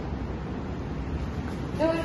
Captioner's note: footsteps approaching